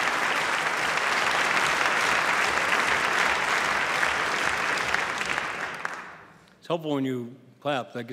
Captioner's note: applause